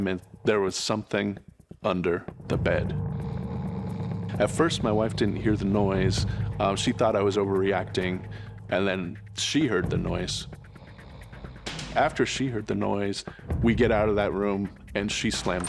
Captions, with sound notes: was something under the bed. At first, my wife didn't hear the noise. She thought I was overreacting. And then she heard the noise. [snoring sound] After she heard the noise, we get out of that room. And she slammed the door.